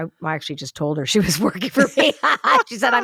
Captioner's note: laughs